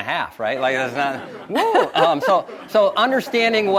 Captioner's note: audience laughs